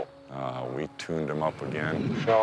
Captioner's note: bear huffing